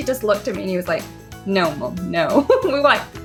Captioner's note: laughs